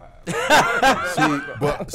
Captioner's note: laughing